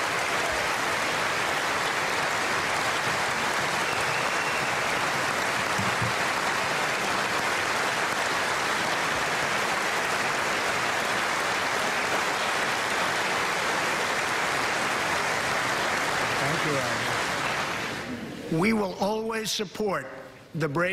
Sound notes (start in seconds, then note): 15.9 applause